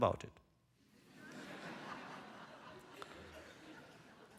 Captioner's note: laughter